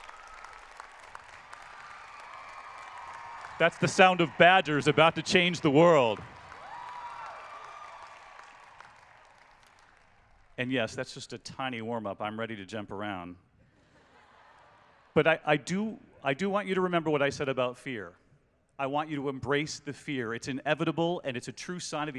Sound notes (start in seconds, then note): 7.1 applause; 13.7 laughter